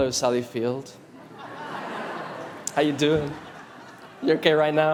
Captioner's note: audience laughs